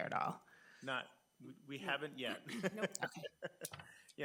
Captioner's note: laughing